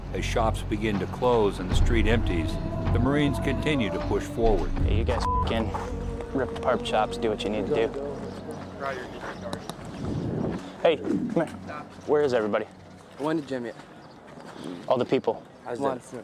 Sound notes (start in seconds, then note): 13.2 man speaks in Arabic